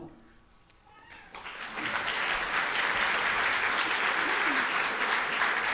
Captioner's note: audience applauding